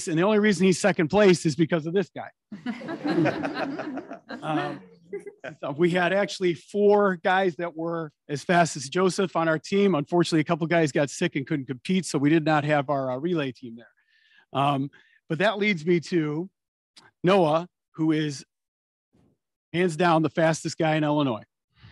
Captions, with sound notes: and the only reason he's second place is because of this guy. (attendees laughing) We had actually four guys that were as fast as Joseph on our team. Unfortunately, a couple of guys got sick and couldn't compete so we did not have our rely team there. But that leads me to Noah, who is hands-down the fastest guy in Illinois.